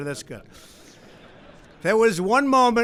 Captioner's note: laughter